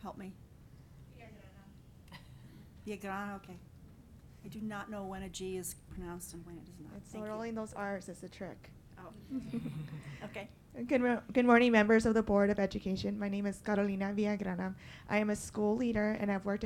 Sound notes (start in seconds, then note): 9.2 laughing